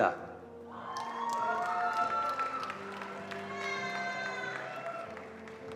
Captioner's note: attendees cheering and applauding